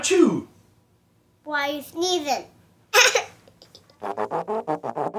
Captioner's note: laughs; trumpet call